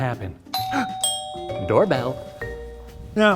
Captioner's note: door bell rings